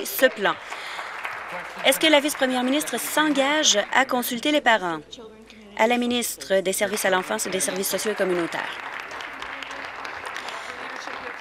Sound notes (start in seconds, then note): 3.6 applause